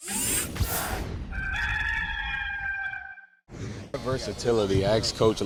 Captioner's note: cock crowing